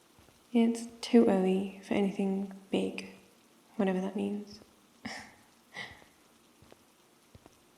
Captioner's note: laughs